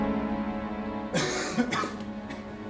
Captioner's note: <i> Lavoisier coughs</i>